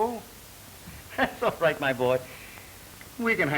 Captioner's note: laughs